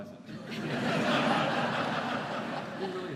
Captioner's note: laughter